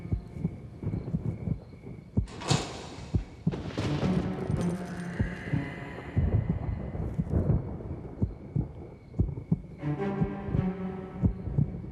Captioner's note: metal hatch opening